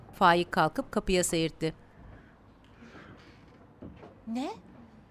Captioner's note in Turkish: Ayak sesi